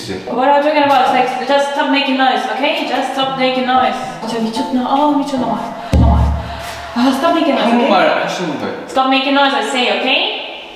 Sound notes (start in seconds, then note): 4.3 speaking Korean